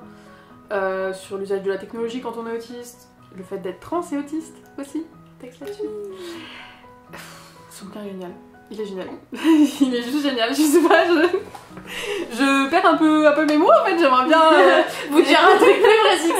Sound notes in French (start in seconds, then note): 6.0 soupire